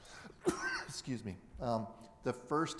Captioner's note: coughing